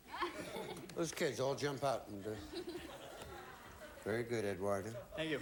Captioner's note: audience laughing